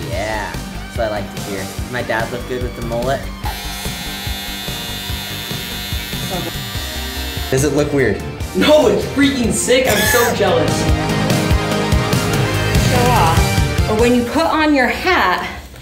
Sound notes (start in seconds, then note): 3.5 buzzing; 10.9 fast-paced music